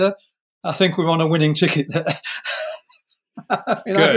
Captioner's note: chuckle